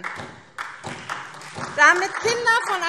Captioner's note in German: Beifall SPD